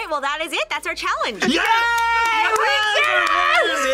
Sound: both cheer

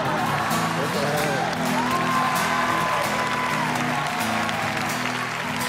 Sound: all cheering

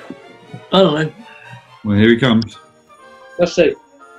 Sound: mutters

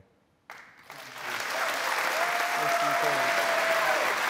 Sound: applause

